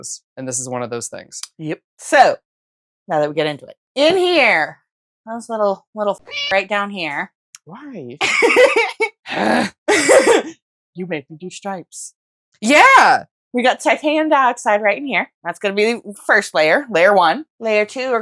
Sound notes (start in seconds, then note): 6.2 meow